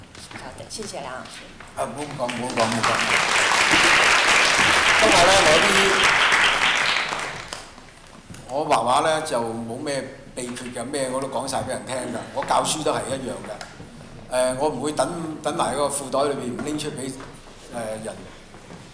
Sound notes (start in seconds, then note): 3.0 Cantonese; 4.7 audience clapping